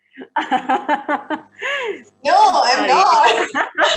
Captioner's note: laughing